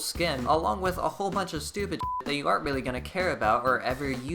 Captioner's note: beep